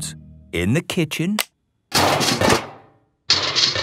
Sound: banging

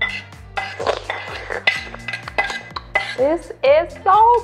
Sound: scraping on plate

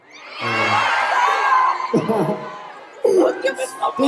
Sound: laugh

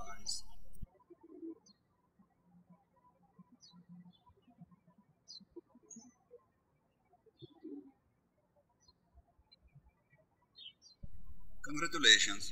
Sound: birds chirping

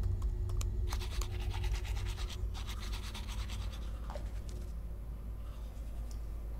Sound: brushing

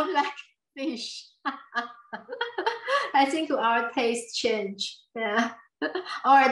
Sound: laughs

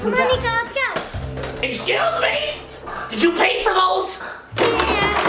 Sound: none

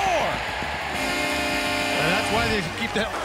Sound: buzzer

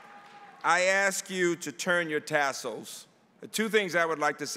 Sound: applause

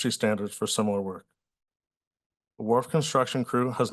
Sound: pause

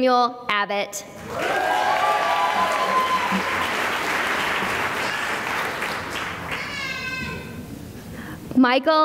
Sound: cheering and applause

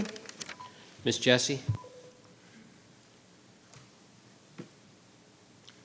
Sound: timer tone chimes

